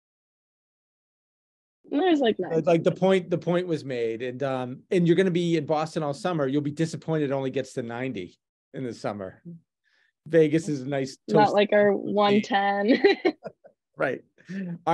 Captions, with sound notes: - The point was made, and you're going to be in Boston all summer, you'll be disappointed, it only gets to 90 in the summer. Vegas is nice, toasty. - Not like our 110. (laughs) - Right.